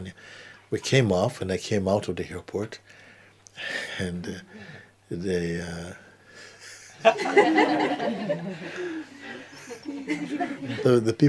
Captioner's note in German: Lachen